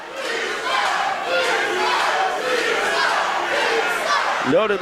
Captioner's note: crowd calls angrily